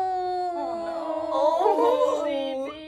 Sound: all exclaiming sadly

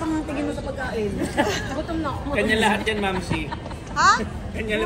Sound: laughs

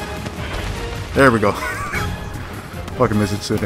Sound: laughs

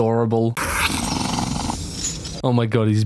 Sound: terrifying monster noises

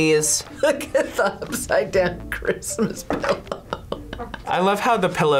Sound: laughs

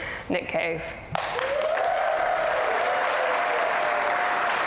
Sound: audience applause

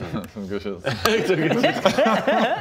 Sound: laughs

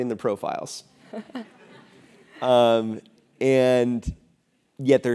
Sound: laugh

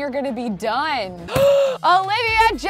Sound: gasping

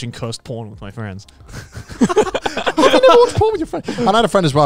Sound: everyone laughs

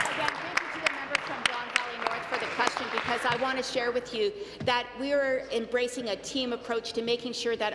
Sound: applause

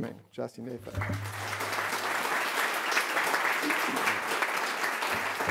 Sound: audience applauds

